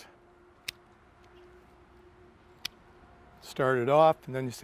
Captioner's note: shears click